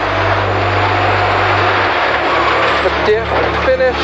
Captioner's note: engine revving